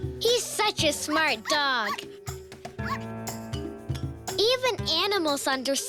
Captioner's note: dog barking